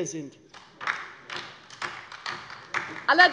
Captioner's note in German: Beifall bei der LINKEN